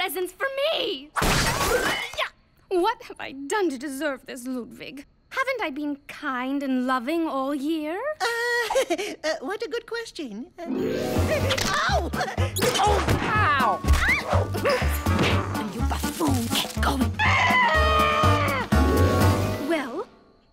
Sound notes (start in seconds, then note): 15.2 screaming